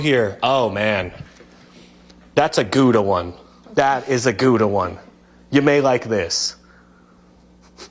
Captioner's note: laughter